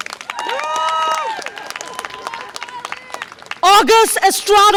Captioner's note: audience applause and cheer